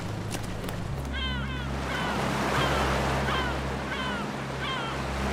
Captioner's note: gulls crying